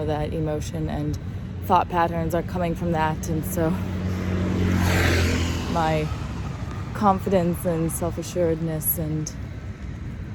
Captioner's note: vehicle passes